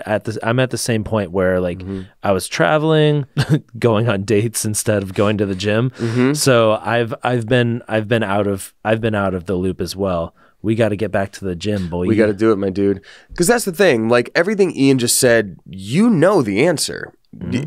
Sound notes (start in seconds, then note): 3.3 chuckles